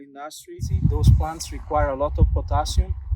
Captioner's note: wind whooshing